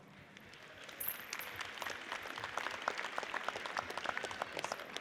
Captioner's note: audience applauds